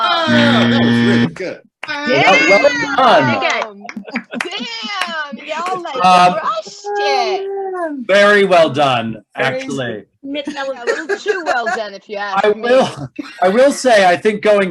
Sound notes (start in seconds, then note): 0.2 loud buzzer